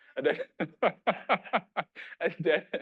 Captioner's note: laughing